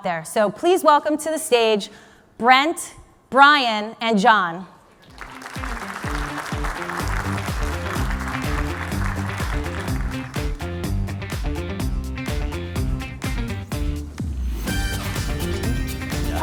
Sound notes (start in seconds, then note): 5.0 audience applauding; 5.5 bright upbeat music